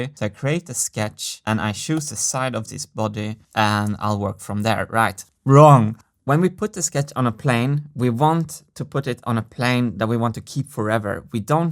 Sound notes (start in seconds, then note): none